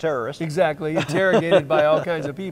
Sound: laughing

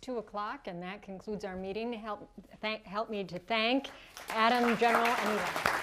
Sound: applause

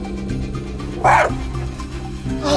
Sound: growl; bark

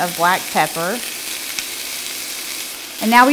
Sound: food sizzles

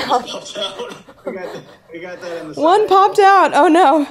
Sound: softly chuckling

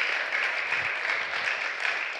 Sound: applause

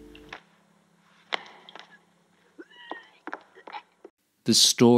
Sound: retching

